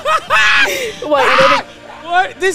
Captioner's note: laughing